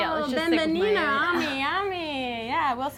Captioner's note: speaking spanish